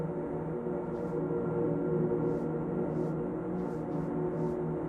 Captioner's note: hand scratching